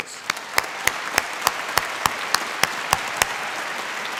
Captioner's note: applause